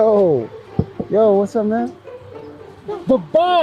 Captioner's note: knuckles rapping